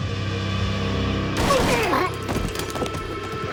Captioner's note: gun firing; grunting